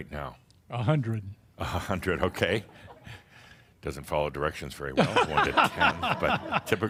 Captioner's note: laughs